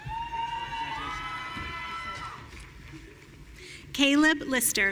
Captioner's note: audience cheering